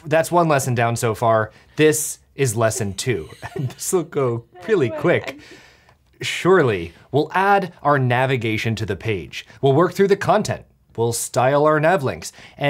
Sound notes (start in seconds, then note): 2.6 laughing